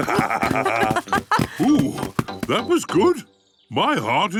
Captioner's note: all murmuring